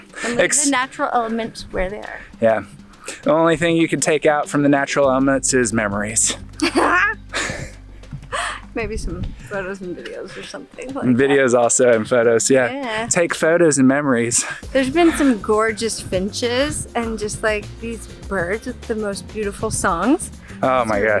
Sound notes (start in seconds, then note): 6.5 she laughs